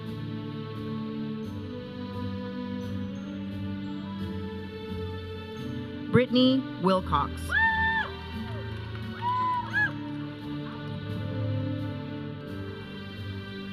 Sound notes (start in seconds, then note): 7.5 audience cheering; 10.4 processional music